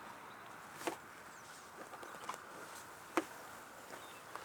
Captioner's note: birds chirping